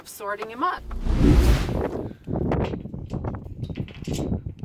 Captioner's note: wind roaring